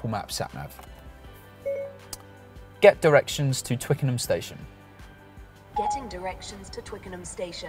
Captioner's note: ding-ding